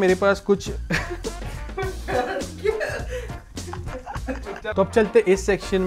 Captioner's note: laughing